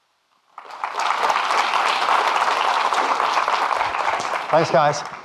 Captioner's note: audience clapping